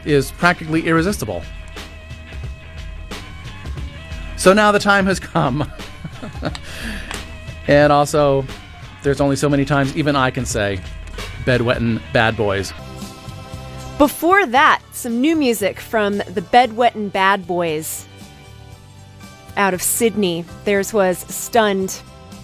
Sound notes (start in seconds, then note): 5.3 chuckles